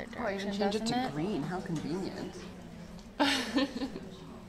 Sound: laughter

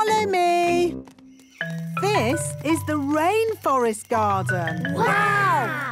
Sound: rainforest sounds

